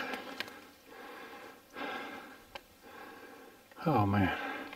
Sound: heavy breathing

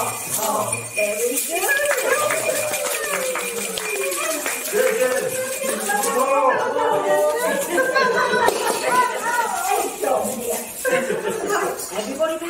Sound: laughs

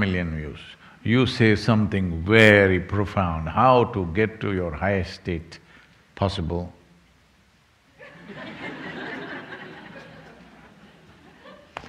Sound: laughter

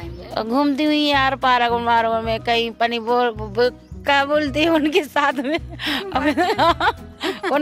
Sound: laughs

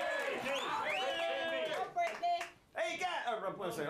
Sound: audience cheering

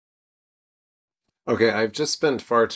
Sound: silence

